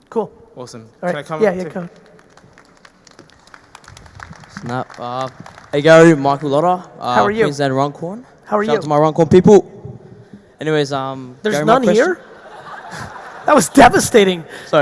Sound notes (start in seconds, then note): 1.4 audience applauding; 11.6 audience laughing